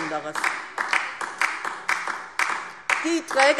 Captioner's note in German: Beifall DIE LINKE